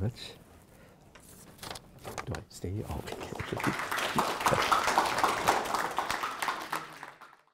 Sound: applause

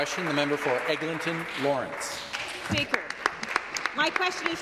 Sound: some Applause

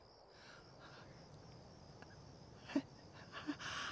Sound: shaky breathing

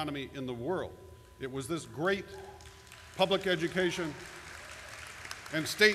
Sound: background applause

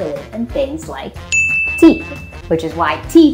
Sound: bell dings

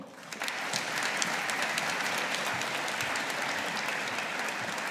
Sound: audience applauding

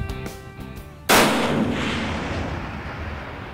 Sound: gunshot

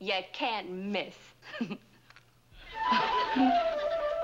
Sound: giggles

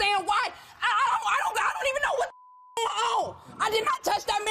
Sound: beep

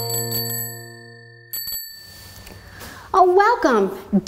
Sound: bell ringing

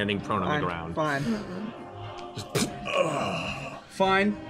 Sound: impact, groan

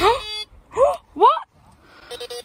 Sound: metal detector beeps; gasps

